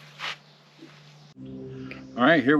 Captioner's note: small airplane engine sounds